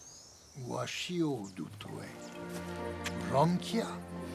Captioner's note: foreign spoken audio